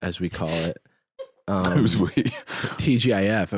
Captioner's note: laughs